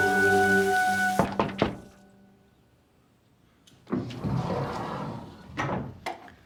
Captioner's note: Terry knocking at the door